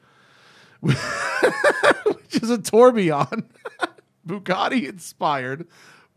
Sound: laughter

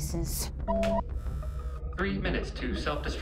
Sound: computer beeps and buzzes

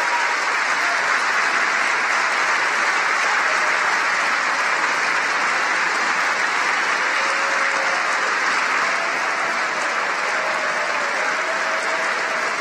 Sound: cheering and applause

